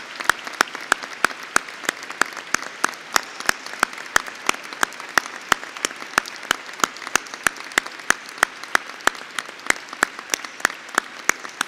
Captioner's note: applause